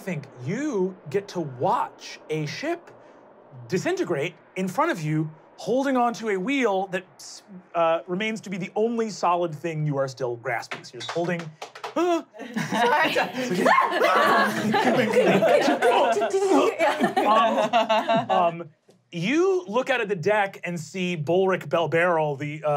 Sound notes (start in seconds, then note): 11.8 laughing; 12.1 stammers; 13.4 yelps; 14.8 laughing